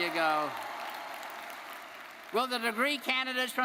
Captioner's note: audience cheering; audience applauding